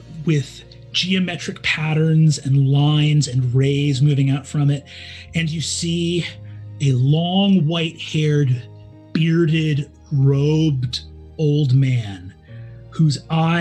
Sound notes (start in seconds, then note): none